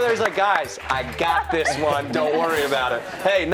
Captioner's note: cheers and applause